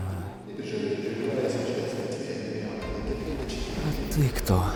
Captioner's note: indistinct penguin muttering